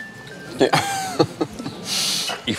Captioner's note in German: lacht